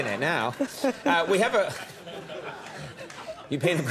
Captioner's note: audience laughs